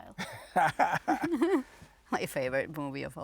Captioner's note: laughing